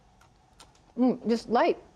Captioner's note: crunching